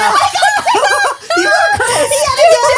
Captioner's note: all laughing